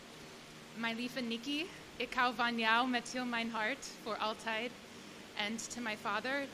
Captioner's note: non-english speech